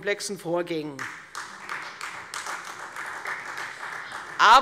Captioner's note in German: Beifall Freie Demokraten